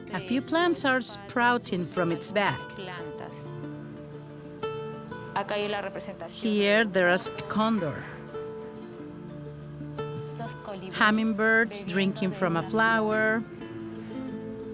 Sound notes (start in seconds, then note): 4.1 speaking Spanish